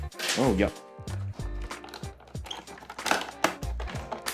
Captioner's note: screw noises continues